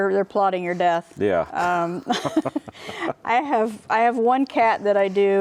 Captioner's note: both laughs